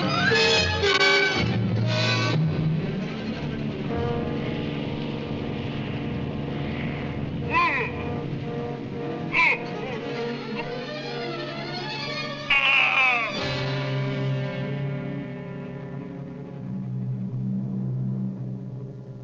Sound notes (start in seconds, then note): 7.7 yelling